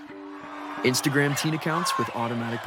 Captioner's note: crowd cheering